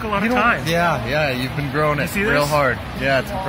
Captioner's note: satirically